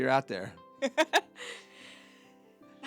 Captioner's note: laughing